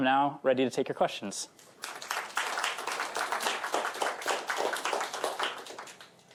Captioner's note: applause